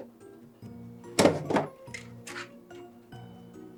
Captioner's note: rustling sound